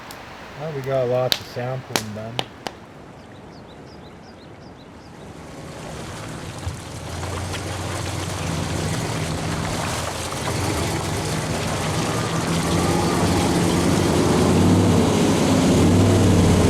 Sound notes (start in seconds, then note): 3.0 river echoing; 9.8 truck engine echoing